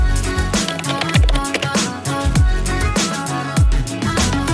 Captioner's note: upbeat music; keyboard clacking